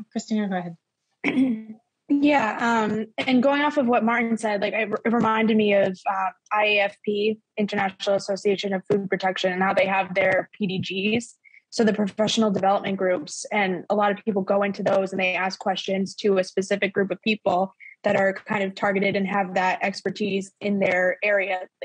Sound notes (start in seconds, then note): 1.2 clears throat